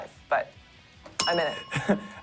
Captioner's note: bell rings